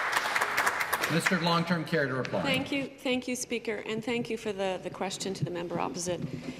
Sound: some Applause

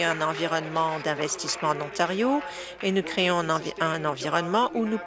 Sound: applause

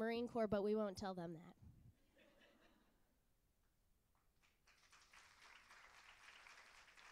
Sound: applause

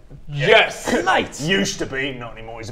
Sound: scoffs

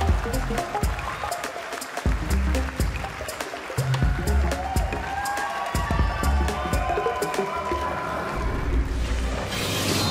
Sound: applause; applause

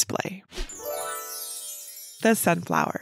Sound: image whooshing; bells tinkling

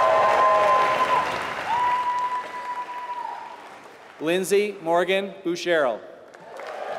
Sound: applause; applause

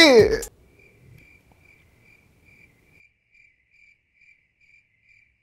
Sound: sound of crickets

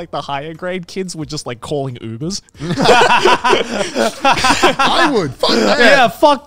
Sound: all laughing

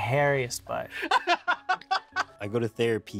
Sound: laughs

